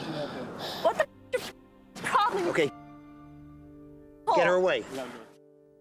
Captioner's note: muted